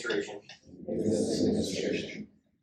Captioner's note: inductees repeat